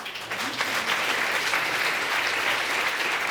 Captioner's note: audience applauding